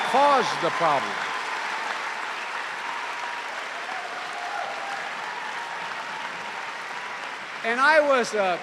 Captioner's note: cheering and applause